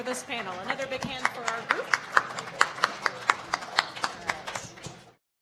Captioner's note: applauding